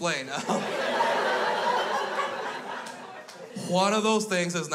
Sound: crowd laughs

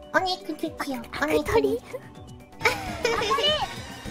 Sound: laughing

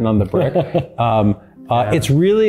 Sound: chuckling

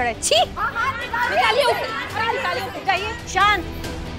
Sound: clamouring

